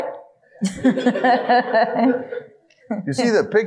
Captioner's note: audience laughing